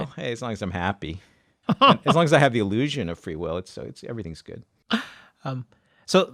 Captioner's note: laughs